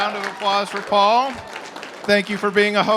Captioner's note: applause